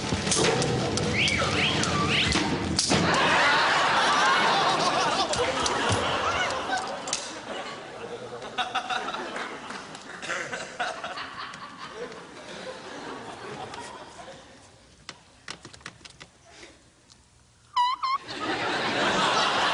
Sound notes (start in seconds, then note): 17.5 squeaks